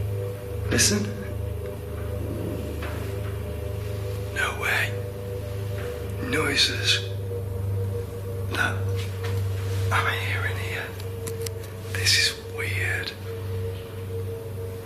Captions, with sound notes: Listen. (strange tapping sound) No way. Noises. What am I hearing here? This is weird.